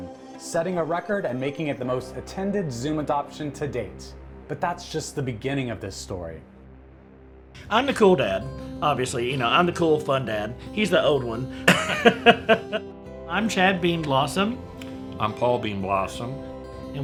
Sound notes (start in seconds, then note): 11.6 laughs